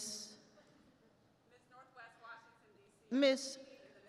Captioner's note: speaks faintly